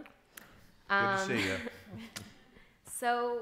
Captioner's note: chuckling